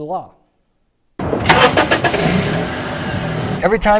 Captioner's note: car starting